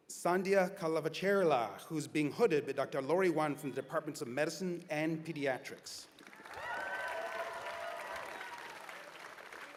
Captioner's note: cheers and applause